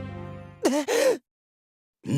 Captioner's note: gasp